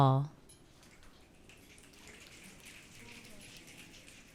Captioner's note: audience clicking